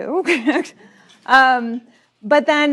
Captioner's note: laughs